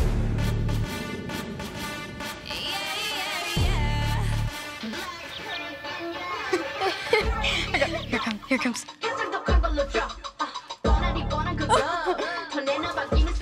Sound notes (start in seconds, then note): 6.1 girls giggling